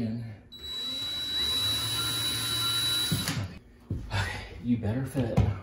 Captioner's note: drill whirring